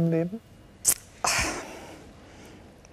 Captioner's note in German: Seufzen